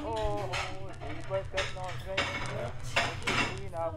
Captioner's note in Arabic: ثرثرة خفيفة